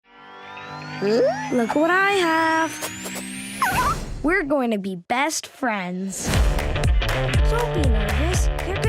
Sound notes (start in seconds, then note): 3.6 Snoopy whimpers; 6.2 upbeat music